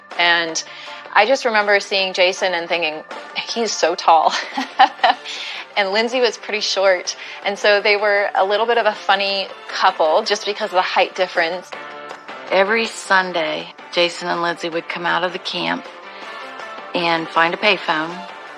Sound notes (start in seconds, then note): 4.4 lauaughs